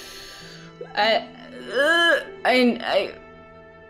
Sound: noises of pain

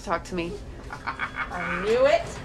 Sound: cackles

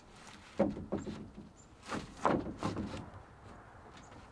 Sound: wood thuds softly

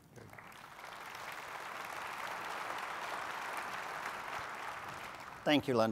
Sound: applause

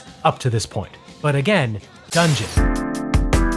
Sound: glass smashes; upbeat music

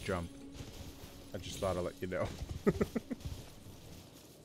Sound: laughing

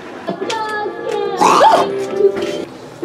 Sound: yelps; snorts

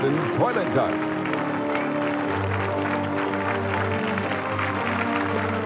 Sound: audience clapping

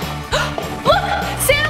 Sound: gasps

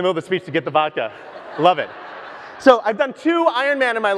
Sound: audience laughs

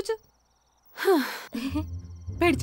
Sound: gasps

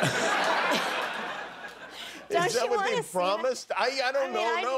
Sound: laughter

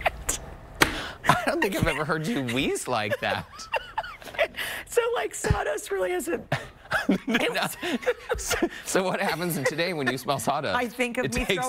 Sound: laughter

